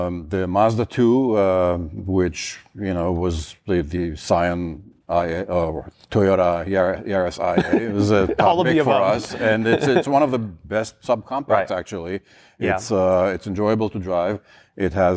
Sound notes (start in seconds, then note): 7.5 laughs